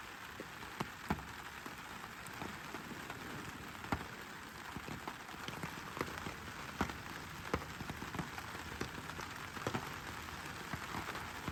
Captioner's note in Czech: zvuky deště